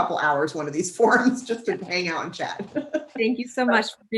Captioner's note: laughs